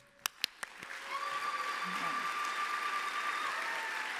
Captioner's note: applause